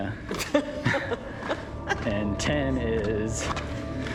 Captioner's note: laughs